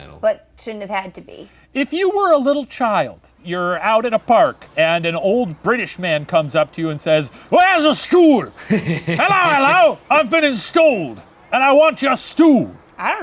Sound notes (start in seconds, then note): 8.5 laughing